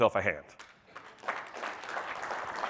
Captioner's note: applause